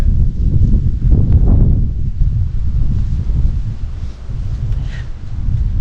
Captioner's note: wind